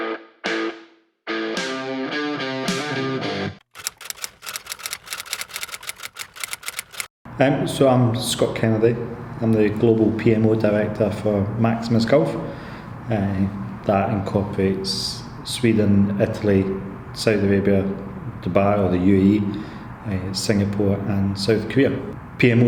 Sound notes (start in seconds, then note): 3.8 keyboard clacking